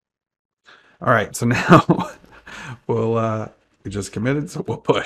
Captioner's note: chuckles